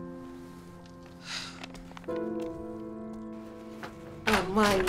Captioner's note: Stephen sighs